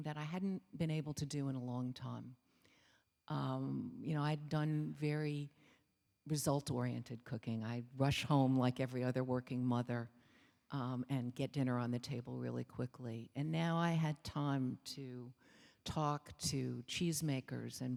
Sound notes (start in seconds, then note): none